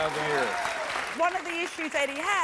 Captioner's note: audience applauds